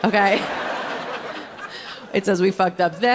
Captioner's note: audience laughing